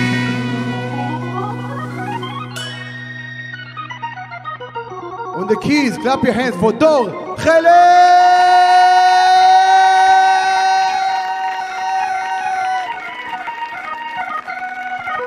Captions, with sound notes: On the keys, clap your hands for Dor Heled. (audience clapping)